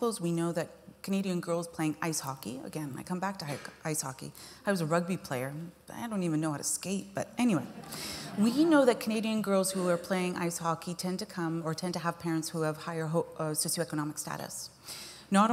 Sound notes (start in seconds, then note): 7.6 laughter